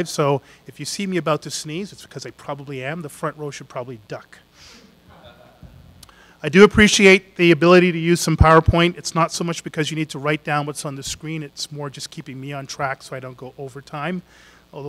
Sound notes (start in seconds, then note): 5.1 audience laughs